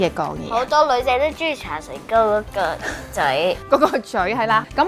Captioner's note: laughing